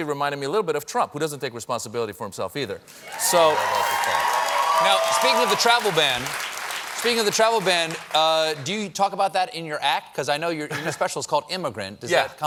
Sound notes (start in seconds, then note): 5.6 applause